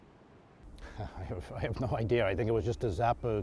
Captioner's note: chuckles